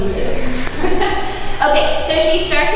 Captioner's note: laughing